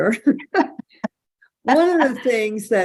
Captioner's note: person giggling